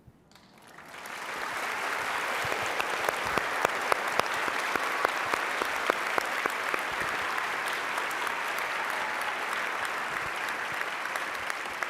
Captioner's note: applause